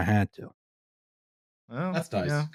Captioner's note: silence